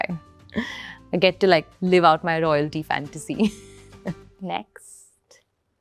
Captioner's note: chuckles